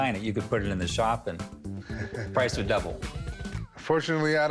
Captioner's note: chuckles